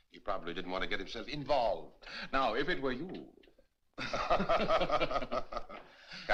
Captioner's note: both Laughing